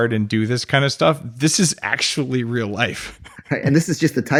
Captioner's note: laughs